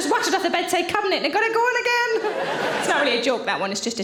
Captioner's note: audience laughing